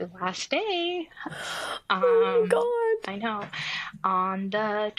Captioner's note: gasps